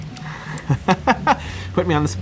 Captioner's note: laughing